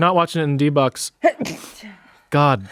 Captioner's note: sneezes